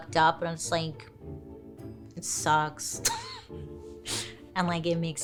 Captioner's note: laughing